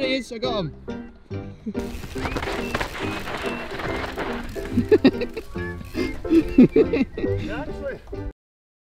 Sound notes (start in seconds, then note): 1.8 ground rumbling; 4.7 cameraman laughing